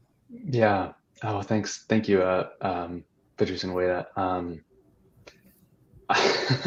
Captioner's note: chuckles